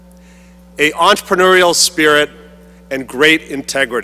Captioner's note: none